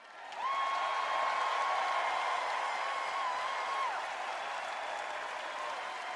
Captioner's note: cheers and applause